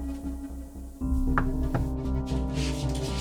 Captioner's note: knocking on door; suspenseful music